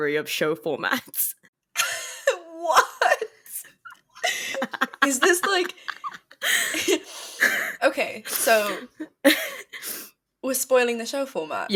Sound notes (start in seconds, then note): 1.8 laughs